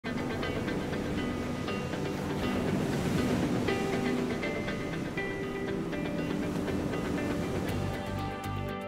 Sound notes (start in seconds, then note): 1.9 waves rolling